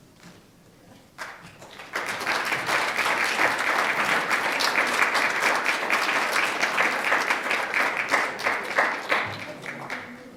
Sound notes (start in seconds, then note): 1.2 audience applauding